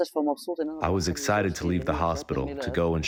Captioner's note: through translator